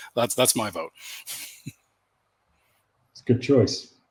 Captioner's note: laughs